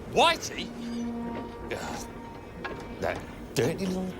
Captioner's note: groans